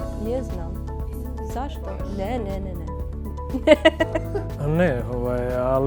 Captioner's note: laughter